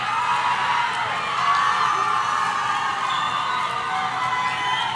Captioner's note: audience cheering